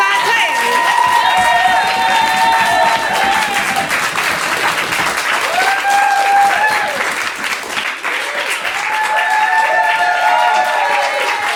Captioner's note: audience applause